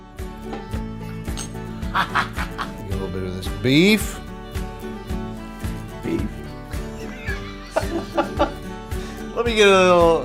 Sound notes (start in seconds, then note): 1.9 laughs; 6.8 laughs